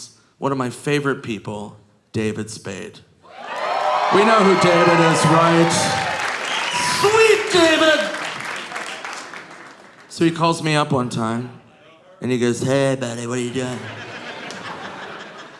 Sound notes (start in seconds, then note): 3.2 audience cheering; 7.8 audience applauding